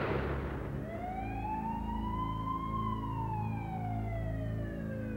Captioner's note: sirens